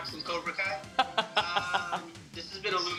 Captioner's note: laughing